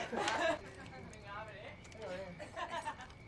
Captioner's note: perempuan tertawa dan bercetak; berbicara bahasa spanyol